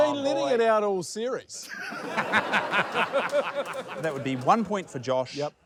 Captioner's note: guffaws